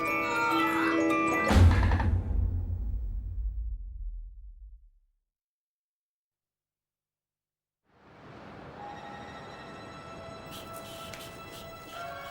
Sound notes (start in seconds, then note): 0.9 yelling; 8.7 suspenseful music